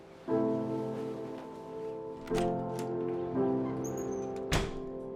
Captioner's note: door opens and closes